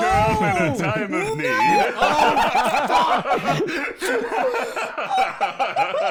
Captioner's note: very angry sounds and laughter